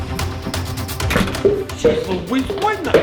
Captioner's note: door close